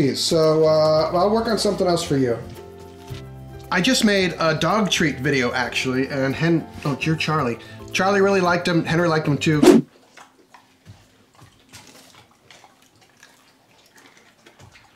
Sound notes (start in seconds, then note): 9.8 dogs chewing